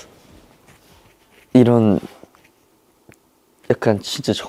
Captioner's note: Scratch